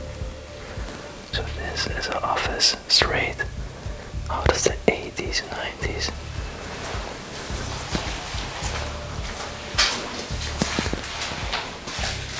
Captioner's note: creaking dry leaves